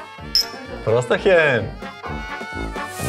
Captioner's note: cheerful; lively music